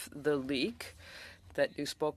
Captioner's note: speaking French